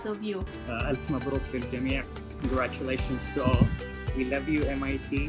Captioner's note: non-english speech